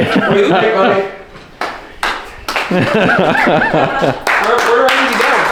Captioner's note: laughing